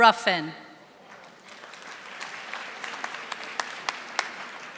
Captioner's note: audience applauding